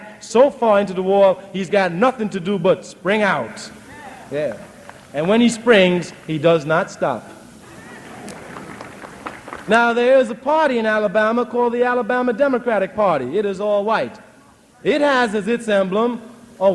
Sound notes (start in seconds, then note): 7.6 applause